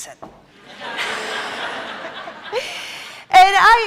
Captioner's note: laughter